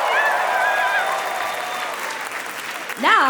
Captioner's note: applause; cheering